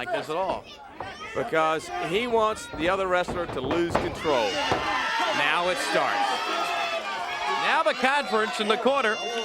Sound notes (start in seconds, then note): 6.4 crowd cheering